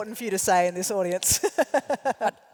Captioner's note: laugh